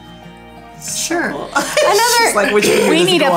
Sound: laughs

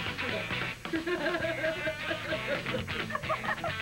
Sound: laughter

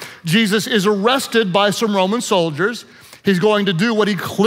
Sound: none

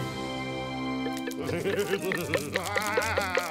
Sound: laughing sinisterly; paint sloshes

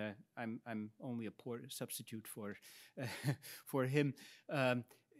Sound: laughs

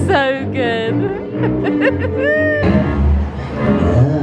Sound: dramatic music; giggling; dramatic creepy music

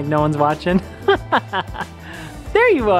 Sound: laughing

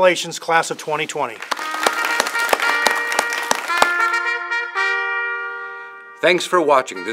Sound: clapping

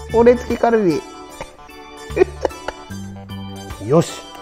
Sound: laughs

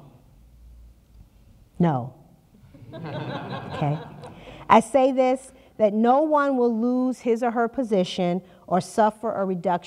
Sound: laughter

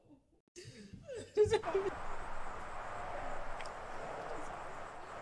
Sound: traffic rumbling

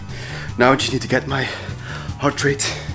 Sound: out of breath

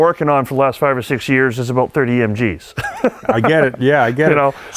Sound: laughs

